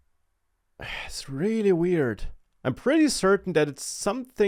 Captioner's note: sighs